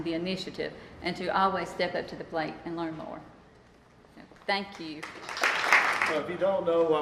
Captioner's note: applause